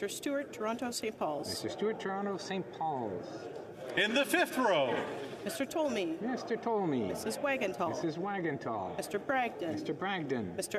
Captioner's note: calling of recorded vote